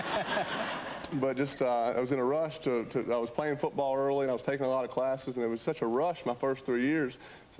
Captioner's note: laughter